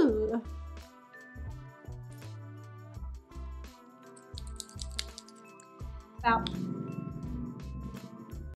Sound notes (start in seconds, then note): 0.0 chill music; 6.4 object rumbling